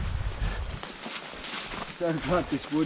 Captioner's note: leaves crunching